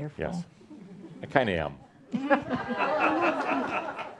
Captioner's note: laughter